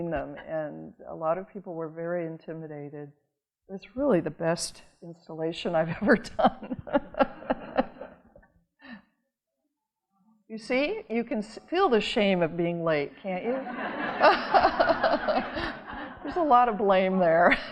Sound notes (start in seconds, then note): 6.5 audience laughing; 13.5 audience laughing